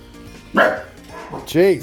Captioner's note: regular dog bark